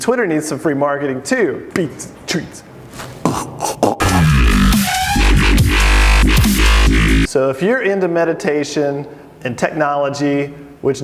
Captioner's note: beat boxes